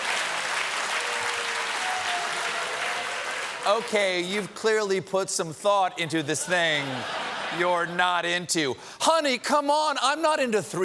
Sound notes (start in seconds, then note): 0.0 cheers and applause